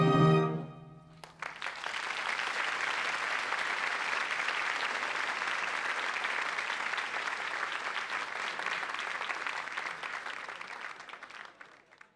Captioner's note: applause